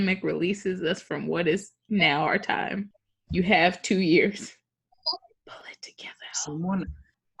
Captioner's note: whispers